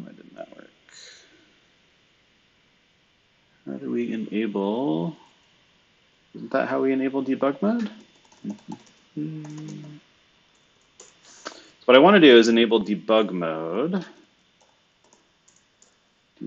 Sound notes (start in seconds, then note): 7.9 computer keyboard clicking; 9.1 humming; 15.5 computer keyboard clicking